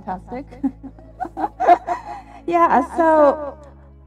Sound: laugh

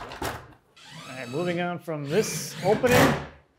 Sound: drill whirring

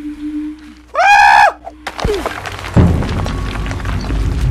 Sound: screams

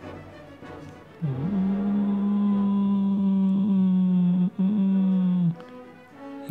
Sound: grunt

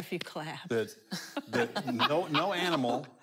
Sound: laughing

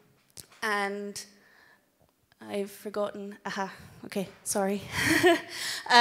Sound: laughs

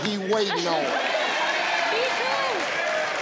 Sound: audience cheers

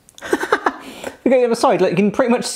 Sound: laughing

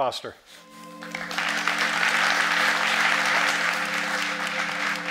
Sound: crowd applauding

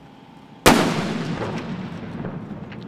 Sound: explosive boom

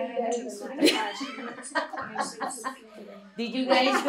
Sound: laughter

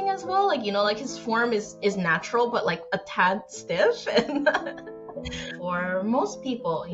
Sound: laughs

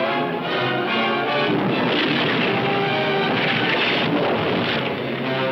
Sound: cannon roaring

